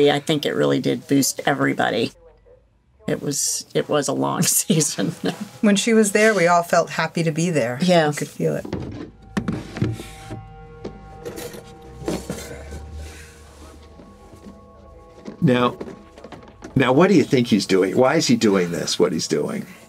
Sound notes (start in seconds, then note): 11.2 metal clinking; 11.3 Gene groaning